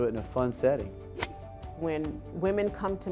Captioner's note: golf club hitting ball